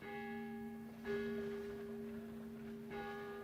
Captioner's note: clock chimes